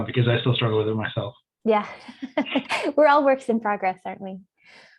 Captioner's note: laughs